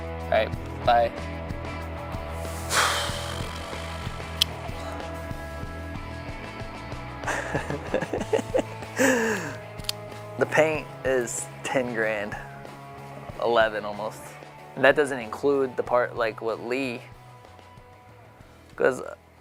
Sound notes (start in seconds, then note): 2.4 sighs; 8.9 laughs